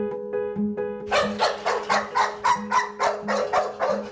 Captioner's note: dog barking